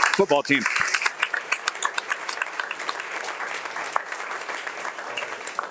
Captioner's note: audience applauding